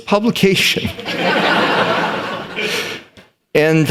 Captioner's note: laughter